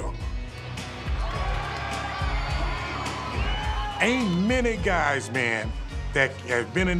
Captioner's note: applause